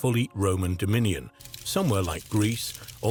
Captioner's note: fire crackling